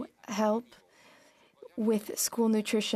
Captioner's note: speaking French